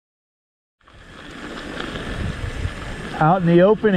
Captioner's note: tires rumbling